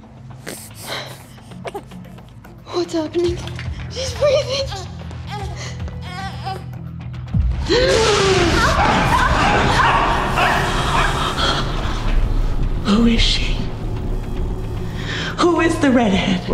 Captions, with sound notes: [COUGHING] What's happening? She's breathing. [CRYING] [GASPING] [YELLING] Who is she? Who is the redhead?